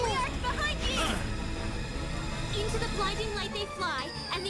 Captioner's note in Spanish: alarmado